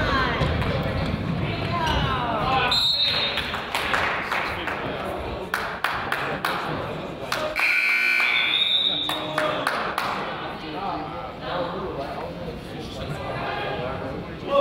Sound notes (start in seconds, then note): 3.2 whistle blows; 3.3 crowd applauds; 7.6 buzzer honks; 7.6 whistle blows; 9.0 team claps